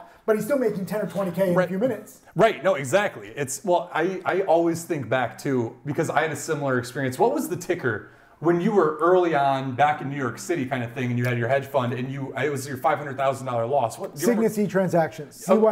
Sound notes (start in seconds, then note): none